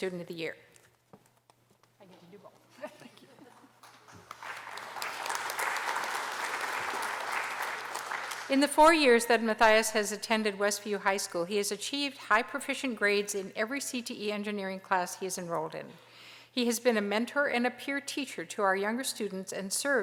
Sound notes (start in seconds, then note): 3.8 applause